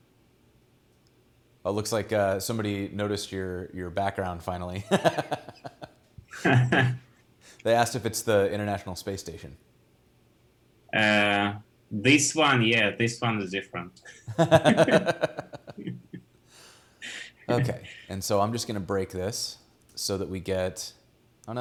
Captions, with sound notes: Oh, looks like somebody noticed your background finally. (laughs) They asked if it's the International Space Station. - This one, yeah. This one is different. (both laughing) - Okay, and so I'm just gonna break this so that we get.